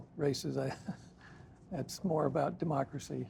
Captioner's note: laughs